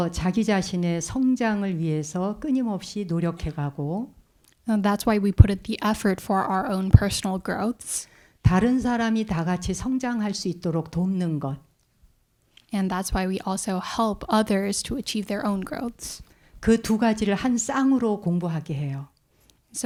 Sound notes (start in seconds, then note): 0.2 speaking in Korean; 9.0 speaking in Korean; 17.2 speaking in Korean